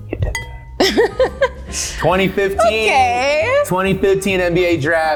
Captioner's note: Jordyn laughs